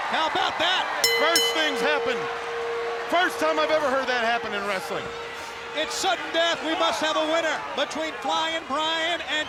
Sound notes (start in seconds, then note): 1.0 bell ringing